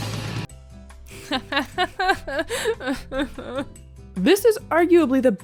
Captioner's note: sobs